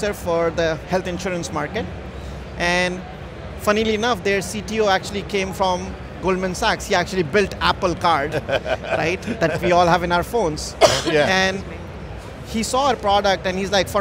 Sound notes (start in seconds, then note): 8.2 laughing